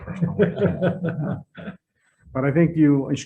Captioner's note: laughing